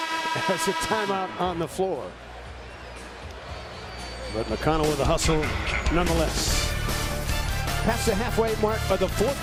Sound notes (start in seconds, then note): 2.6 buzzer